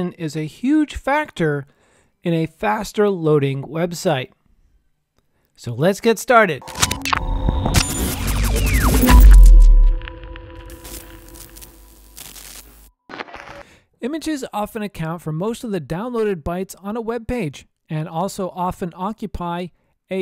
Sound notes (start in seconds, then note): 6.6 electrical popping and static buzz